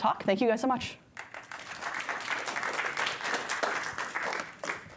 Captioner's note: applause